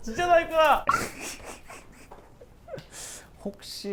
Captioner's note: continued laughter